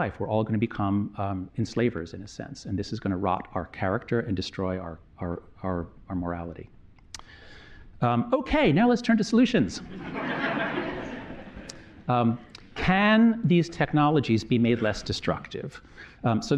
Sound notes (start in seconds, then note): 9.8 laughter